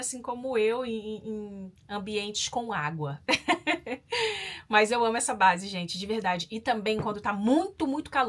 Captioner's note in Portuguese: risadas